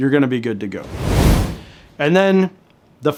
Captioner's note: air whooshing